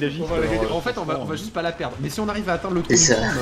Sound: laughs

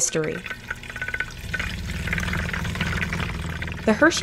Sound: blender spinning

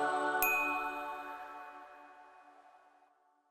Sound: gentle music; bell ringing

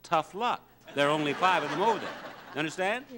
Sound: crowd laughs

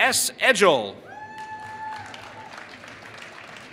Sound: applause

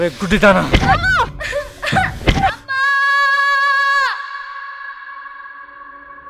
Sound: Chinni yelling

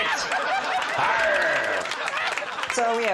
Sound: audience laughing

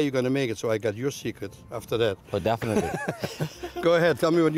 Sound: laughs; laughter

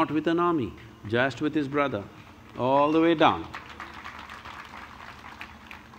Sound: applause

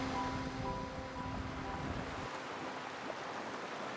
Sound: waves splashing

